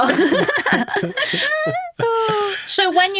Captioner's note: hosts laughing